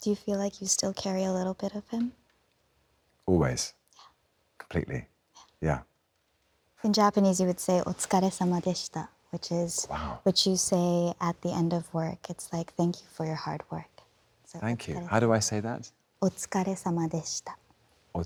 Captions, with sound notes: - Do you feel like you still carry a little bit of him? - Always. Completely. Yeah. - In Japanese, you would say, (speaks Japanese), which is what you say at the end of work, it's like, thank you for your hard work. - Thank you. How do I say that? (speaks Japanese)